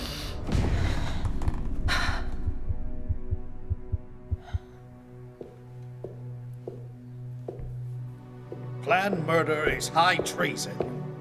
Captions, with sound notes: [sighs] [footsteps] Planned murder is high treason.